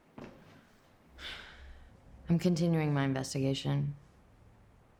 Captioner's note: sighs